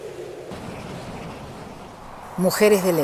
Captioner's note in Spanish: trueno